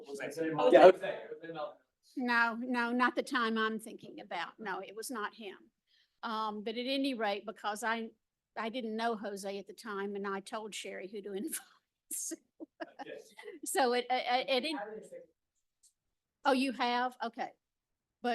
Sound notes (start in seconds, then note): 12.6 laughing